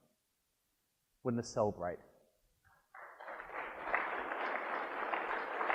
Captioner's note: applause